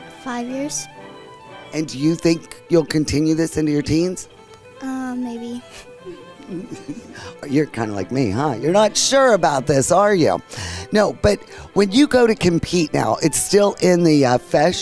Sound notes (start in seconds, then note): 6.0 chuckles